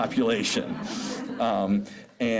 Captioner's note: laughter